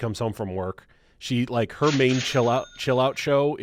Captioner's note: cash register cha-chings